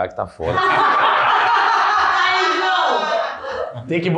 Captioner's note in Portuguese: risos